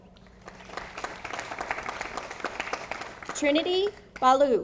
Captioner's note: audience applauding